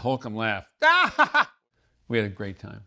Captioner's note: laughs